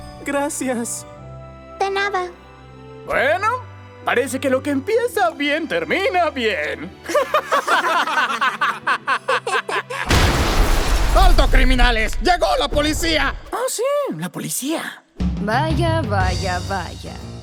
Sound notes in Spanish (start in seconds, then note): 10.0 explosión